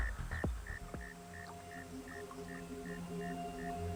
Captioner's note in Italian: Rumori notturni